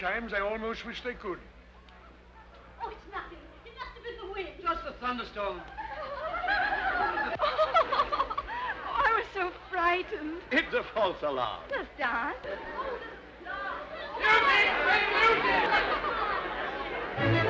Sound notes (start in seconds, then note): 5.6 women laughing; 11.7 people chattering; 17.2 upbeat orchestral music